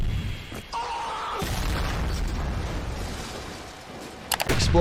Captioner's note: explosion booms